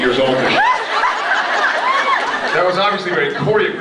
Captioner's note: laughs